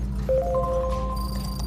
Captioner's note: chiming